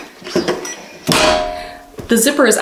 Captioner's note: press clangs